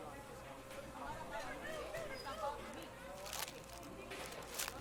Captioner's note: people chattering